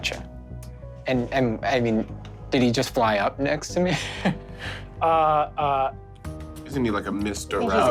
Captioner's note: laughs